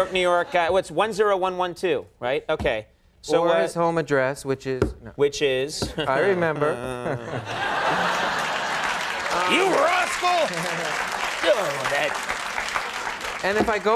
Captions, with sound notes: I don't know. New York guy, What's 10112. Right, Okay. So where is my home address, Which is, which is? I remember. (applause) You rascal. (applause) Go for that.